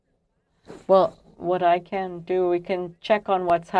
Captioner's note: speaking french